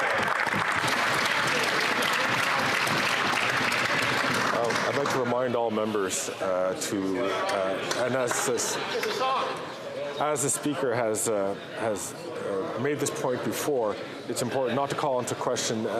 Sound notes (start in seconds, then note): 5.4 some Applause